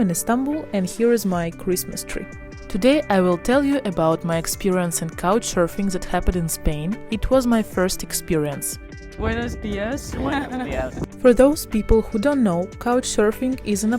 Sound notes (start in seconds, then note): 10.2 in Spanish